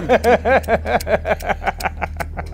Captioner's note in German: Lachen